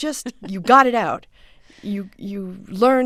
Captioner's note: soundbite of laughter